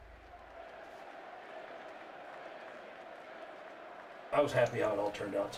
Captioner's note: audience cheers and applauds